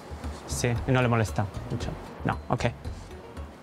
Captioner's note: speaking in Spanish